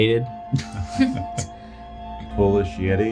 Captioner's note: group chuckling